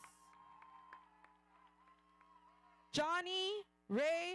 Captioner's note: audience cheering